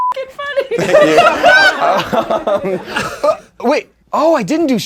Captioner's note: laughing